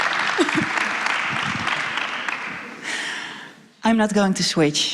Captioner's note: applause